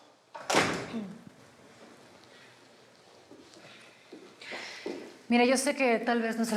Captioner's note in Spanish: sonido al cerrar la puerta